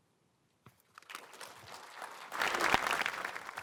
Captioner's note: applause